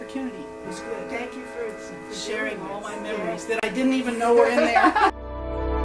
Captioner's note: both laugh